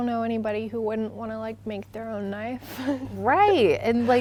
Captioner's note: laughing